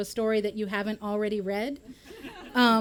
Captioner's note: laughter